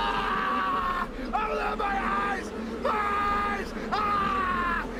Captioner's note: incoherent screaming